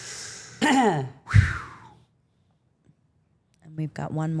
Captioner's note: Steph clears throat